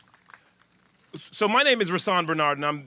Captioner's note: applause